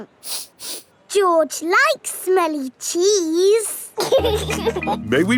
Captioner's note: sniffs; laughing